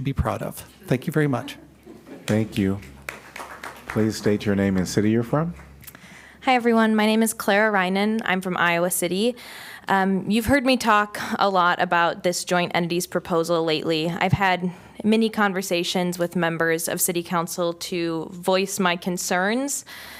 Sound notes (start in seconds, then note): 2.2 applause